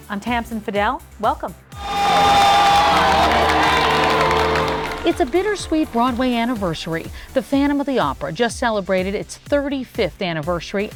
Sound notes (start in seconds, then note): 1.7 audience cheering